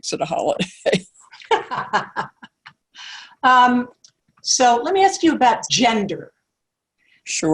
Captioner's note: laugh